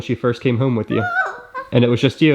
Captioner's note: coos